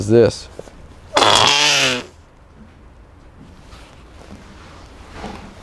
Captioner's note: whoopie cushion goes off